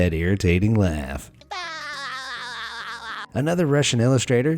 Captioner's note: character laughing